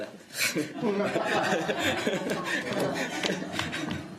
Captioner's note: audience laughter